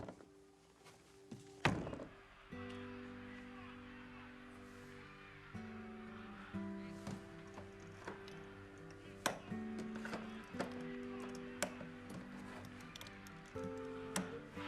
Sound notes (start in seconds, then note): 0.3 gentle music; 2.5 TV chattering; 2.5 gentle music